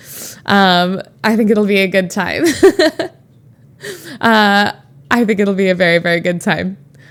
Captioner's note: Emma laughs